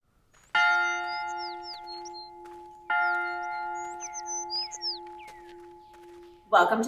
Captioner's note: bell tolls